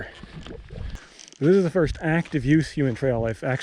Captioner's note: gravel crunching